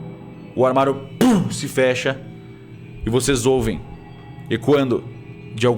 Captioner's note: thump